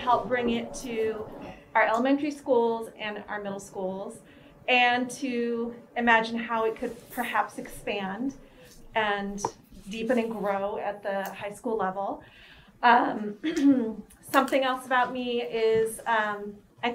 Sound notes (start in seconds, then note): 12.8 clears throat